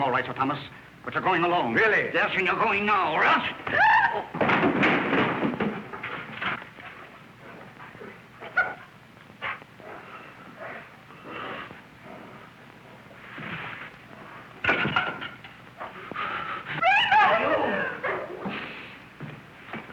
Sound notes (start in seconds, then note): 3.6 woman's scream; 4.4 crashing